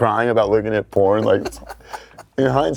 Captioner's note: laughs